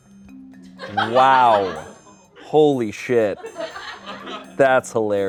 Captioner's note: laughter